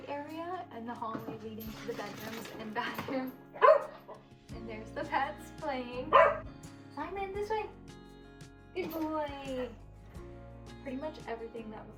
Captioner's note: dog barks